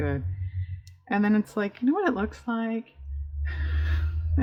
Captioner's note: laughs